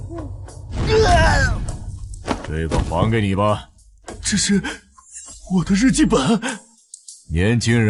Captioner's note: cries